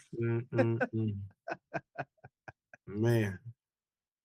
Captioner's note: laughing